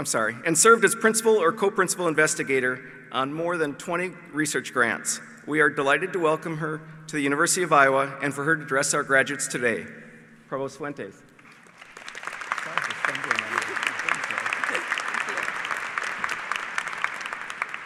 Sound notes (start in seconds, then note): 11.4 applause